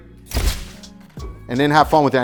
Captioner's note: shutter clicks